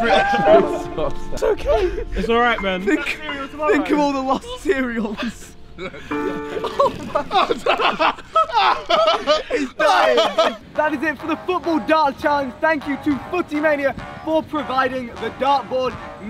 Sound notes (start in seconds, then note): 5.9 milk dripping; 7.9 laughter